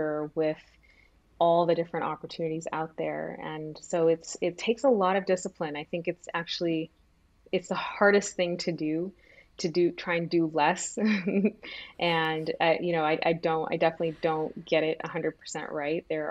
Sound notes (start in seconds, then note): 11.2 laughs